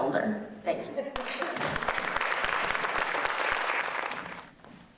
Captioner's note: audience applauding